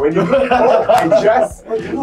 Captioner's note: all laugh